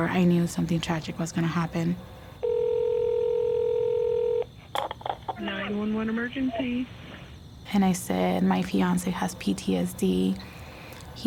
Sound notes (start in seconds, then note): 2.4 phone ringing